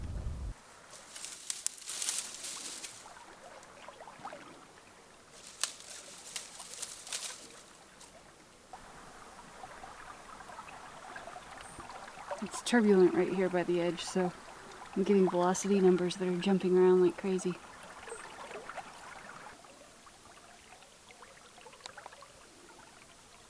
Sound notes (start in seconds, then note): 6.6 grass rustle; 23.4 stream trickle